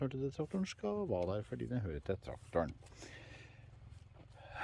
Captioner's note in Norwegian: inhales